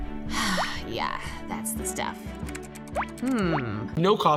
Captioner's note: sighs